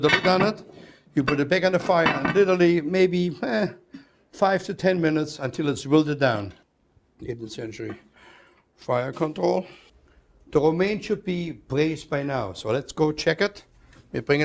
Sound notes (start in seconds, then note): none